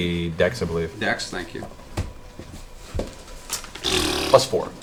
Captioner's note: raspberry noise